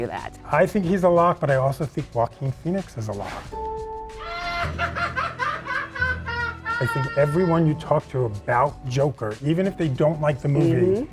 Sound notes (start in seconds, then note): 4.3 menacing laugh